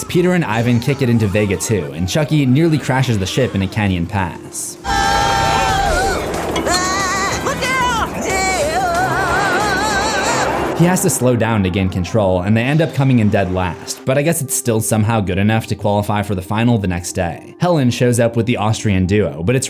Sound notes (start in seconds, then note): 4.8 all screams; 9.4 screams